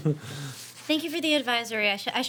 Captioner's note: laughing